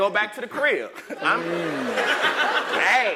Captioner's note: laugh